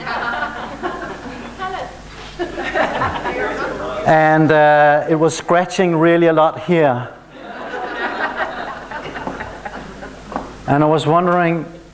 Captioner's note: laughter